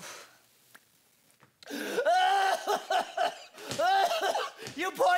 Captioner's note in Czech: CURT kašle a breptá